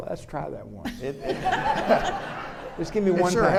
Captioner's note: audience laughing